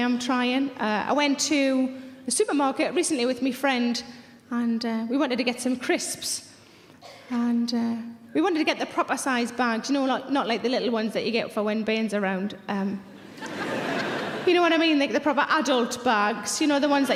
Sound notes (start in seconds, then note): 13.2 audience laughs